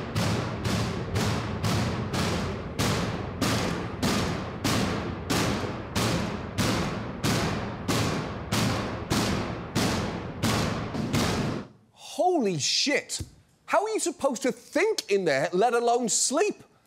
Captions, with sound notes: (BANGING CONTINUES) Holy shit. How are you supposed to think in there, let alone sleep?